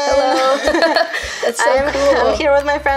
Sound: laughs

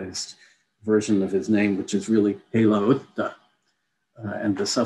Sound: non-english

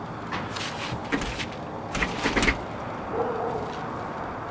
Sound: door hinge rattles

